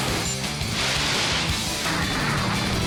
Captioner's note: Button beeps, Rockets blast